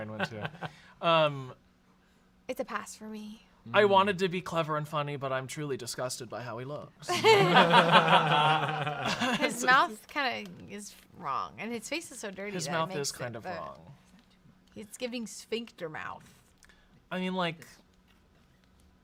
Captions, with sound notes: That's where my brain went too. - It's a pass for me. - I wanted to be clever and funny, but I'm truly disgusted by how he looks. (everyone laughs) - His mouth kind of is wrong and his face is so dirty. - His mouth is kind of wrong. - He's giving sphincter mouth. - I mean like...